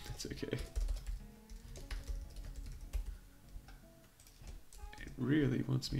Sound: keyboard clattering

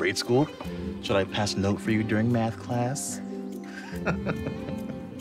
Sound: laughs

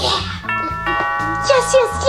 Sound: doorbell ringing

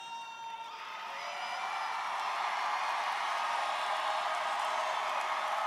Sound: students cheering and applauding

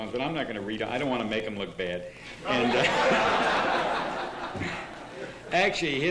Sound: laughter

